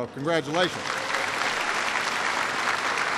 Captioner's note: applause